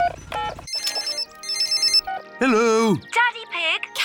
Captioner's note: phone rings